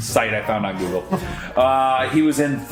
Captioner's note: laughs